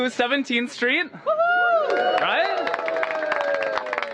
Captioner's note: cheers and applause